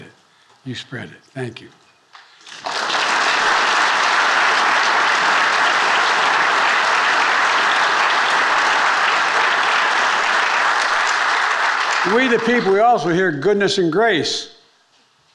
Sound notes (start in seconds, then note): 2.7 attendees applauding